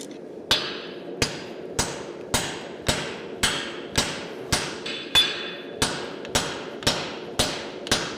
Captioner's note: metallic hammer blows